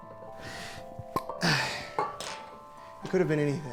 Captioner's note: cork popping